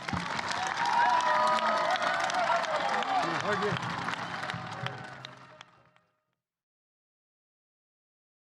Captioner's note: applause